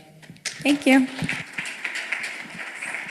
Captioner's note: applause